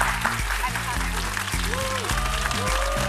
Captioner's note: applause